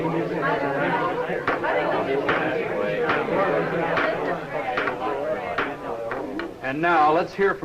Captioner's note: students chattering